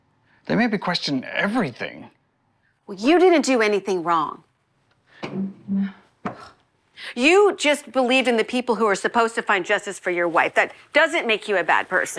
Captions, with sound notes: They made me question everything. Well, you didn't do anything wrong. [chair creaks] [Ruth scoffs] You just believed in the people who are supposed to find justice for your wife. That doesn't make you a bad person.